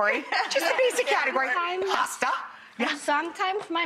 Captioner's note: laughs